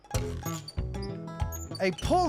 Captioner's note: wheel squeaking